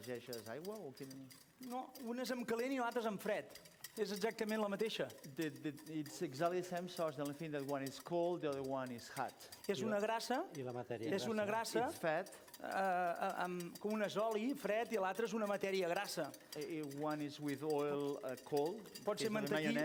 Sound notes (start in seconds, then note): 10.3 non-english speech; 14.7 non-english speech